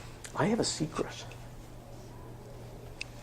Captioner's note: whispers